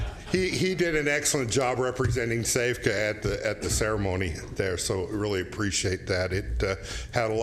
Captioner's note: laughter